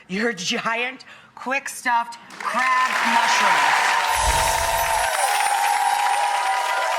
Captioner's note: audience applauding